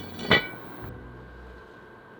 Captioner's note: clank